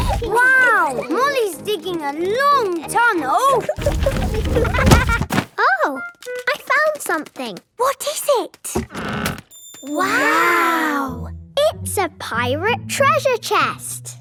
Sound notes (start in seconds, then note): 3.8 thuds